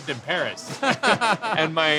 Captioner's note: laughing